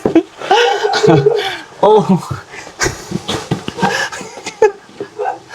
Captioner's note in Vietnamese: tiếng cười